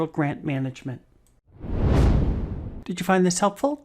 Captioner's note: air whooshing